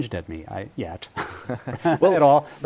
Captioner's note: laughter